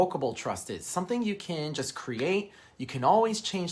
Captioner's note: fingers snapping